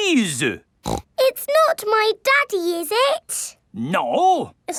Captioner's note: snorts